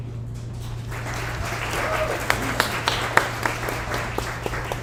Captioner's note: audience applauds